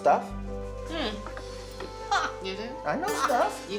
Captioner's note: Ernestine laughs